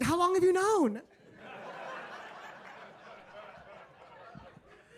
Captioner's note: audience laughing